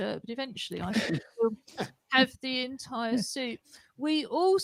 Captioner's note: laughter